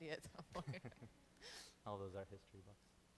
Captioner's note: chuckles